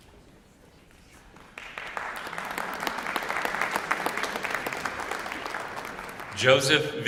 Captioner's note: applause